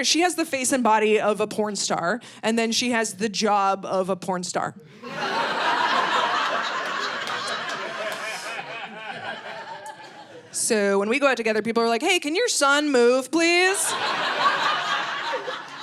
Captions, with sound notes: She has the face and body of a porn star. And then she has the job of a porn star. (audience laughing) So when we go out together, people are like, "Hey, can your son move please?